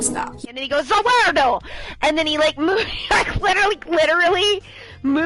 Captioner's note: laughs